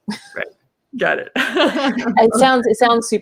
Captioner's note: laughs